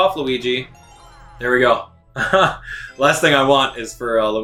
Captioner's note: laughing